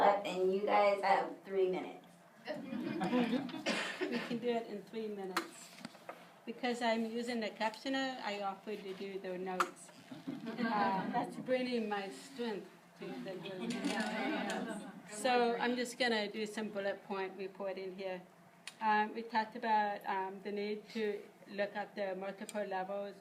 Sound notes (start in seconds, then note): 2.6 group chuckles; 10.1 group chuckles; 13.5 group laughs